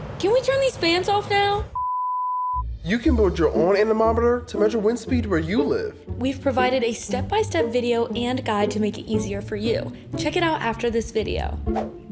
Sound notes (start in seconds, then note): 1.7 beep